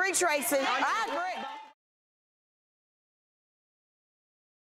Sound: audience yelling

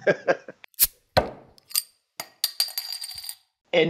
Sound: sound: Beer Opening

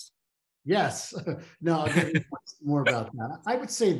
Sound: chuckles

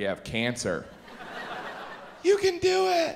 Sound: audience laughs

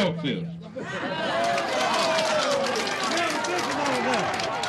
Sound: applauding

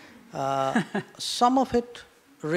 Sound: laughter

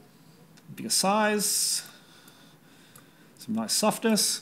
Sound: clicking

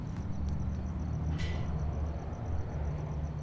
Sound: gate opening; gate closing

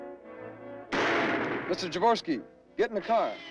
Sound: thrilling music; gun fires

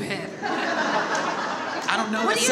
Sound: audience laughs

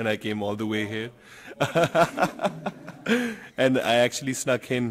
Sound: group laughing

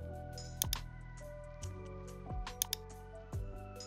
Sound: mouse clicking

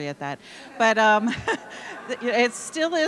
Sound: audience laughing

